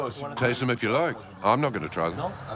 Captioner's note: speaking in foreign language